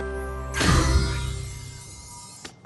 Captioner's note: poof